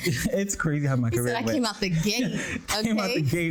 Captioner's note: laughs